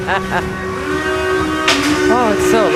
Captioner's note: laughing